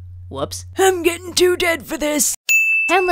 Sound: old man voice; ding!

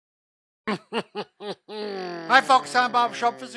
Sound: chuckles

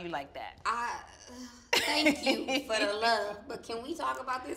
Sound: laughs

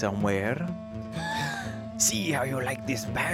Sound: נשיפות

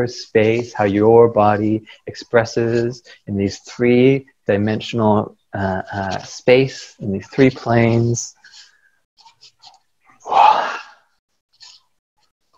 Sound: exhale

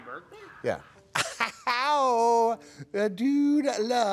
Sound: laughs

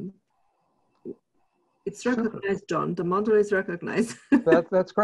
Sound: laughs

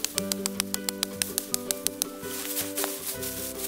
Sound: tapping wood; light music

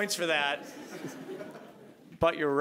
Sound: audience laughing

